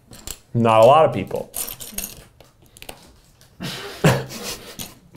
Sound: LEGOs rattling

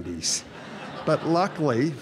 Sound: audience Laughs

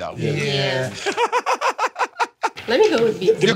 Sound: laughs

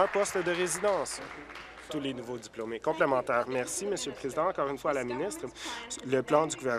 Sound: applause

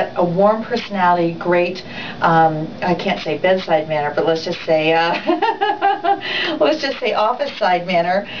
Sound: laughs

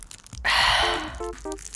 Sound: sighs

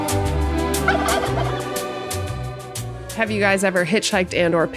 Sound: ostrich gobbles

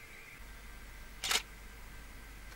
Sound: camera shutter

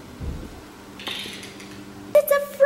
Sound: clicking

